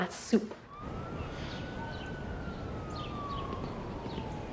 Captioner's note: sirens wailing